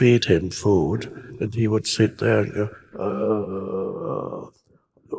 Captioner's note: imitates croaking